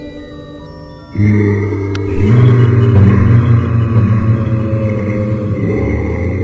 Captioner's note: Yeti calls